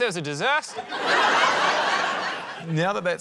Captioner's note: laughter